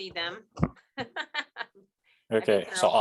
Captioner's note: laughing